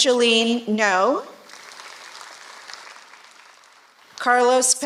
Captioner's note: applause